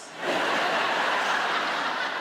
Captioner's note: audience laughs